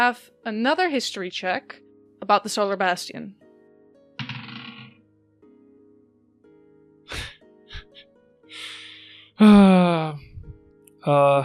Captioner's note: dice clacks; chuckles and sighs